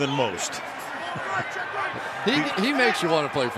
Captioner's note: arguing